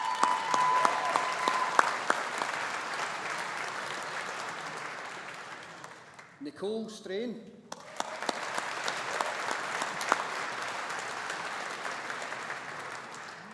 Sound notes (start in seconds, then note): 0.0 audience applauding; 7.7 audience applauding